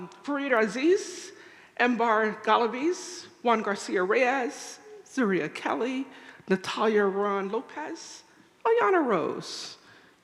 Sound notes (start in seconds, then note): none